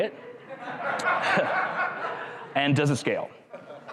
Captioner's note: crowd laughs